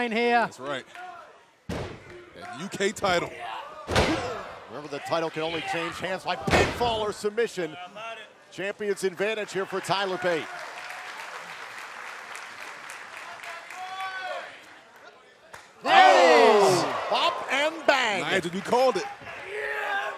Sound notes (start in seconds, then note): 14.6 applause